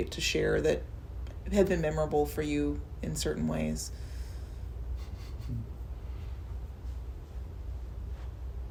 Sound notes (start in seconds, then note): 4.9 chuckles